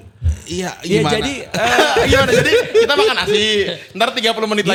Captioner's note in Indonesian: tertawa